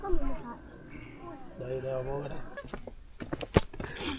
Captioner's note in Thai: พูดภาษาต่างประเทศ